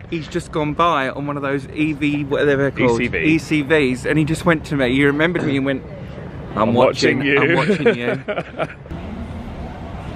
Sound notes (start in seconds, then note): 7.3 laughs